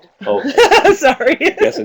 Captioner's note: laughs